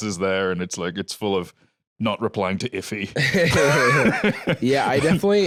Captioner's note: both laugh